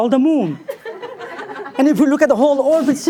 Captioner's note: people softly laugh